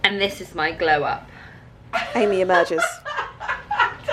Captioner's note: laughter